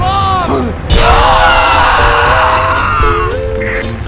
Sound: screams

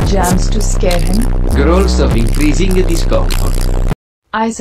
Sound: growls of increasing discomfort

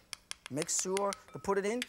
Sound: light tapping

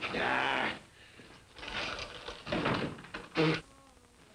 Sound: Ebenezer groans

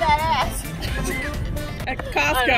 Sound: laughter

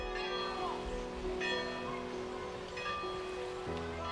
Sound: bell rings

